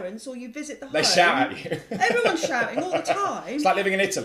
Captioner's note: laugh